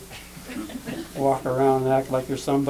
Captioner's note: laughter